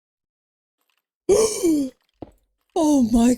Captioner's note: gasp